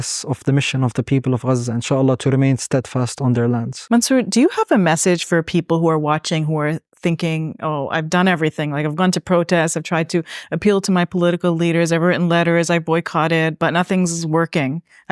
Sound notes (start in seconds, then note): 1.8 speaking Arabic